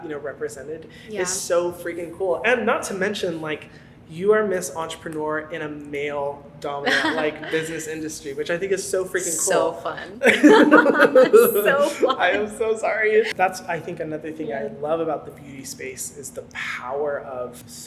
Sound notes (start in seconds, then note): 10.2 laugh